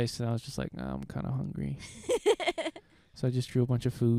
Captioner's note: laughing